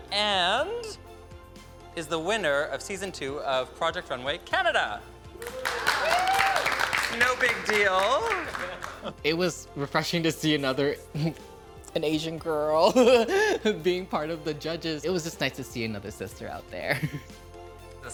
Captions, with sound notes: and is the winner of Season 2 of Project Runway Canada. (all cheering and applauding) No big deal. - It was refreshing to see another, (chuckles) an Asian girl (chuckles) being part of the judges. It was just nice to see another sister out there. (chuckles)